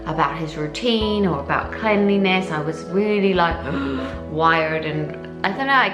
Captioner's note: gasps